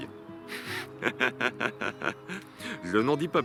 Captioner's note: laughs